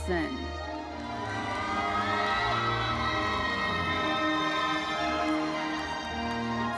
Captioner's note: audience cheering and applauding; orchestral music continues